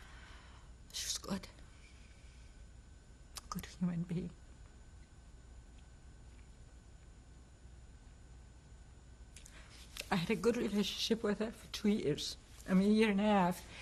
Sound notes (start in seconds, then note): 4.6 pauses for 6 seconds